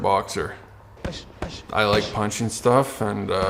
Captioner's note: punching